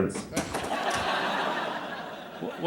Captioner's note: laughter